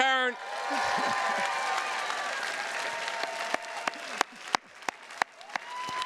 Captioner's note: attendees cheers and claps